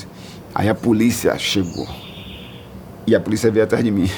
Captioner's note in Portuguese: pássaros chilreando